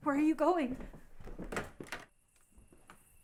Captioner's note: door rattling; crickets chirping